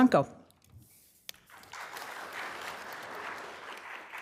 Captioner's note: applause